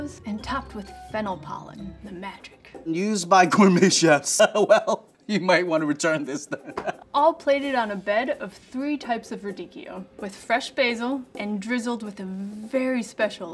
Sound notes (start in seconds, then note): 4.4 laughs; 6.3 laughs